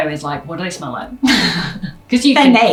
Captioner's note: laughs